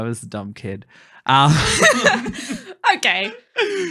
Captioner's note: laughing